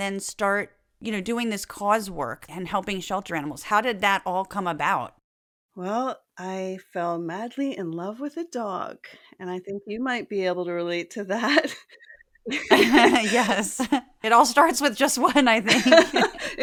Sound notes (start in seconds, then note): 12.4 laugh